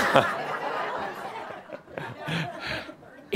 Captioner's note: some chuckles